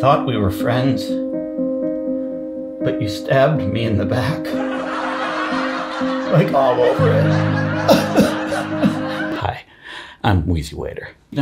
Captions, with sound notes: I thought we were friends, (dramatic music) but you stabbed me in the back. (laugh track) Like all over it. (sobbing) Hi, I'm Wheezy Waiter.